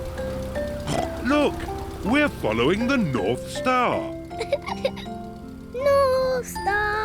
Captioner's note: snorts; giggles